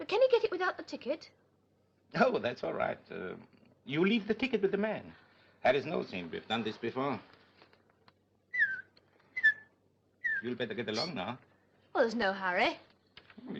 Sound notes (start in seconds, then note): 8.5 whistling